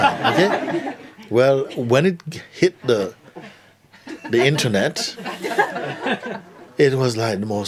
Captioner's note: laughter